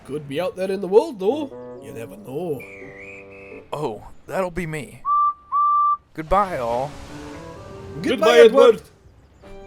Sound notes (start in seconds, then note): 2.6 guards whistle; 5.0 edward whistles